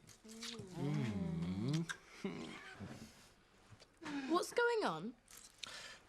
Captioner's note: Loz moaning; Shauna moaning